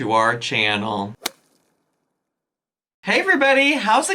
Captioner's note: golf ball clunking